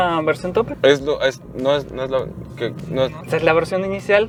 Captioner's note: stammers